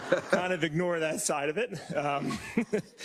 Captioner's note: laugh; laugh